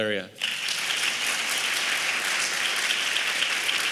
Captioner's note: applause